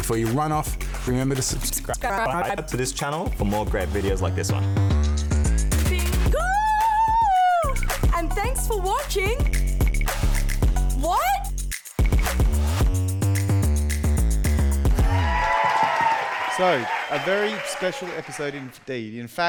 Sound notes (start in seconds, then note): 12.5 upbeat funky music; 14.8 audience cheering and applauding